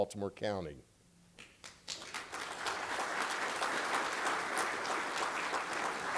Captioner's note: applause